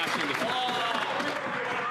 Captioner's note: applause